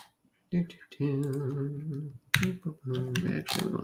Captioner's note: humming